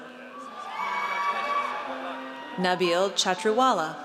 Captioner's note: audience cheers